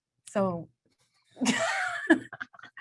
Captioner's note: laughs